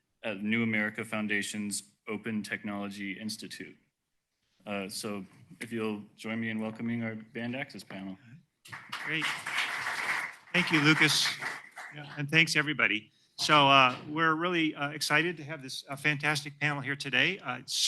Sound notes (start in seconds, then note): 8.6 applause